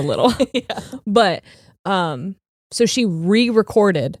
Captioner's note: laughing